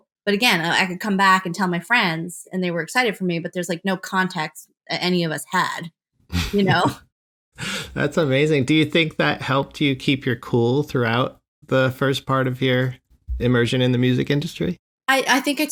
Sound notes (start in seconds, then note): 6.4 laughter